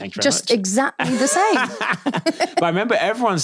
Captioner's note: laughing